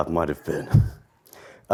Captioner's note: laughter